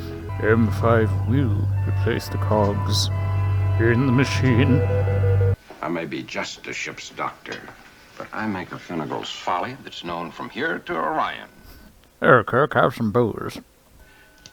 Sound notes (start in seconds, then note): 4.9 beeping